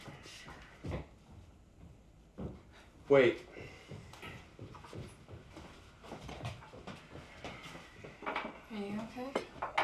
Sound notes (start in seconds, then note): 0.1 footsteps retreating; 6.1 footsteps approaching